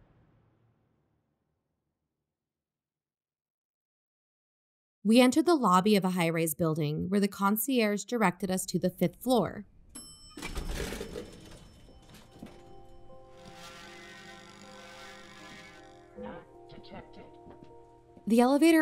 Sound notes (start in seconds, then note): 9.9 elevator ding, doors open; 13.3 machine scans; 17.5 footsteps